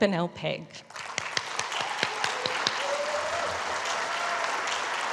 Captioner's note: applause